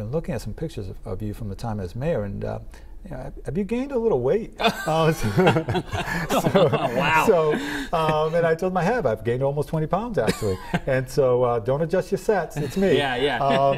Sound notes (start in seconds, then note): 10.2 laughter